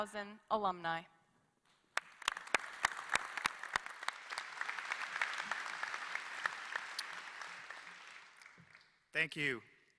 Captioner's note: applause